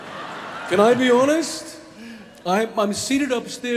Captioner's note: audience laughing